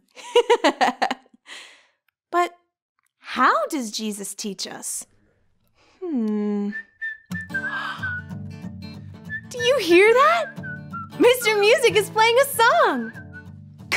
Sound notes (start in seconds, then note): 0.3 laughing; 6.6 whistling